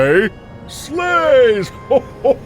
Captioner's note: Santa chuckling